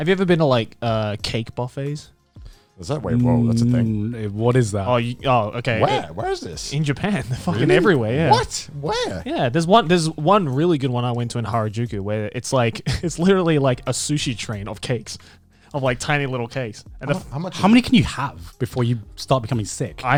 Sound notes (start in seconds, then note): 13.2 laughs